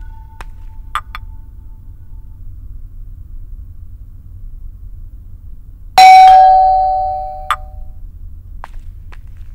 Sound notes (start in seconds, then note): 6.0 Doorbell rings